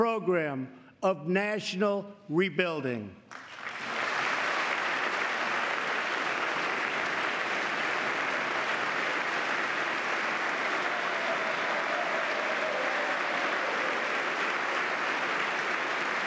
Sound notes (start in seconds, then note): 5.4 applause